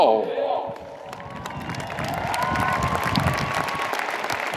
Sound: audience applauds

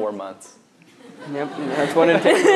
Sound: laughs

